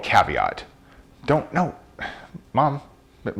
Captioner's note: sighs